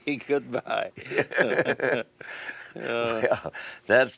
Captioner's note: laughs